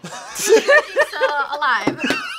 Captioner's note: React laughs